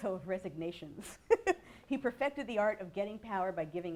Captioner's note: laughs